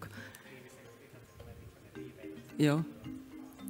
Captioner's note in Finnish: puhetta taustalta